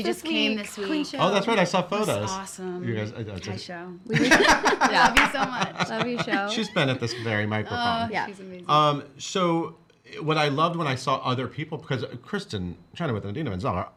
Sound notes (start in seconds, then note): 4.1 laughing